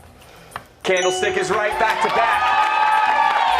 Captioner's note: cheers and applause